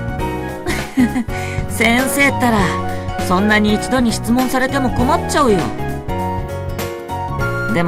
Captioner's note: giggles